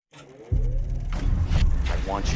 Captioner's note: projector whirring